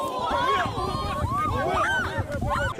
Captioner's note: people scream